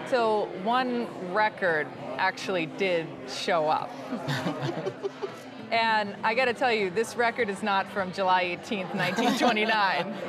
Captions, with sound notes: until one record actually did show up. (both chuckling) And I got to tell you, this record is not from July 18, 1929.